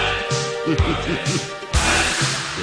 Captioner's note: huff puff